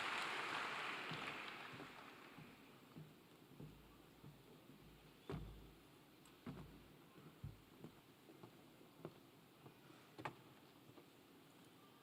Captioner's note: cheers and applause